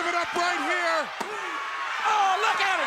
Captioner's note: hands thudding